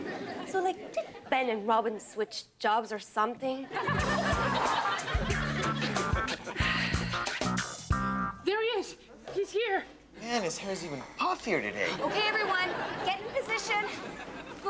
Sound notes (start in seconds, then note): 3.7 audience laughs; 3.8 upbeat music